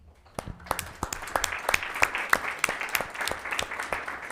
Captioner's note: applauding